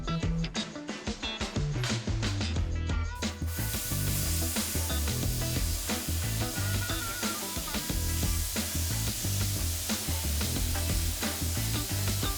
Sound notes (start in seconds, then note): 0.1 funky blues music; 3.6 tool hissing